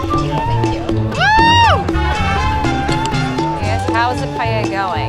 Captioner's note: cheering